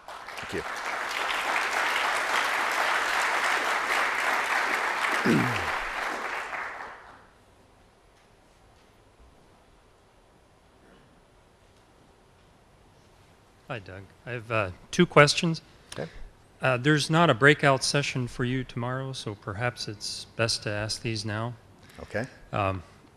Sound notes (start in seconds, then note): 0.0 applause; 7.2 silence